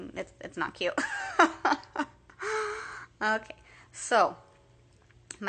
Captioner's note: laughing